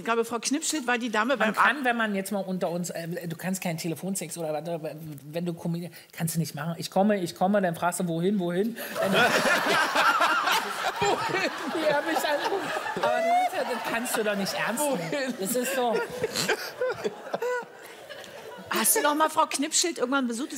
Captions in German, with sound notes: Wenn wir jetzt mal unter uns ... Du kannst keinen Telefonsex machen, wenn du Comedian bist. "Ich komme, ich komme", und du fragst "wohin". *Lachen* Das kannst du doch nicht ernst nehmen. *Kichern und Lachen* Hast du Frau Knippschild noch mal besucht?